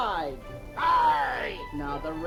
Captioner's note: groaning